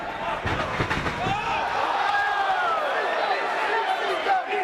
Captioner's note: crowd exclaiming